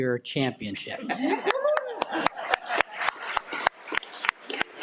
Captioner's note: audience applauding